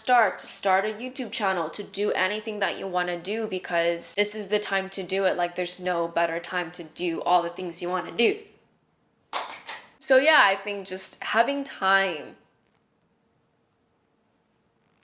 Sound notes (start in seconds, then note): 9.3 clap clap clap